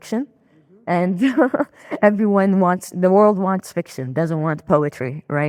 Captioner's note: laughing